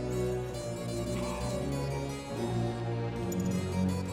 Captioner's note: coughing